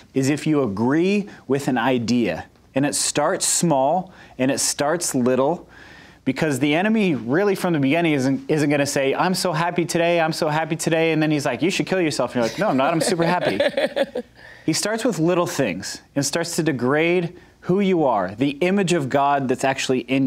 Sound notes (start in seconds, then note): 12.4 laughs